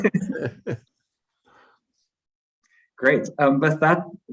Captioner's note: chuckles